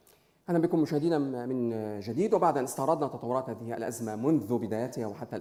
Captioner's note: speaking in foreign language